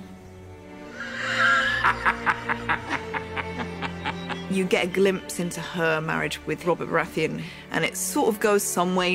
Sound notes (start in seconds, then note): 0.9 laughs hysterically; 1.0 chuckles